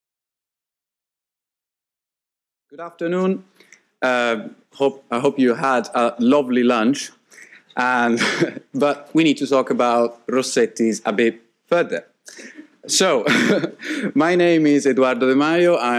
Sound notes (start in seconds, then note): 7.4 laughs; 12.3 laughs